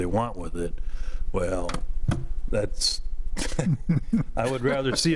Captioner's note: laughing